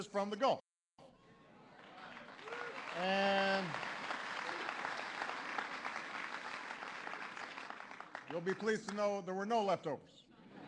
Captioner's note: applause; laughter